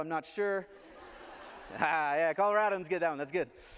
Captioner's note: laughter